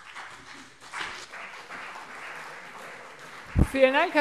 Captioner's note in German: Beifall CDU und BÜNDNIS 90/DIE GRÜNEN